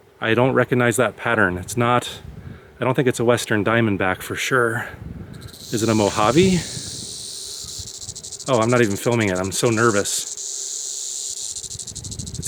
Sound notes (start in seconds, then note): 7.3 snake rattles